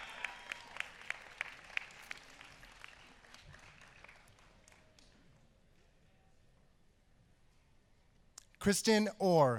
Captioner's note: applause